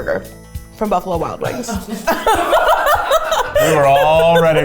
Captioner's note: laughs